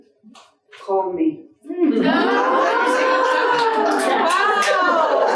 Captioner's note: audience cheering